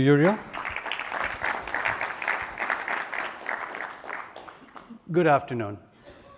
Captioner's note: applause